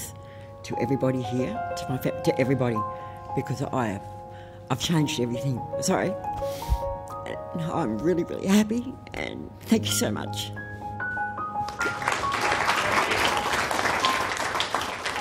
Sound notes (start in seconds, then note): 7.3 voice shaking; 11.6 applause